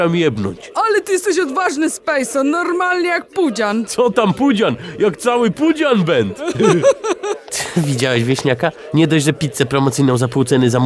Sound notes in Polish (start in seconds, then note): 6.3 śmiech